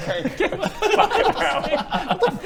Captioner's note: guilty laughs